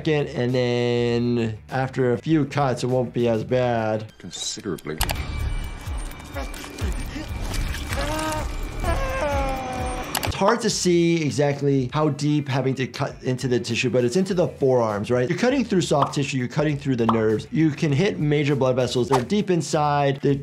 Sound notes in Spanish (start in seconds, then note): 7.9 personaje gimiendo y jadeando